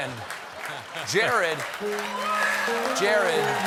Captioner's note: laughter; applause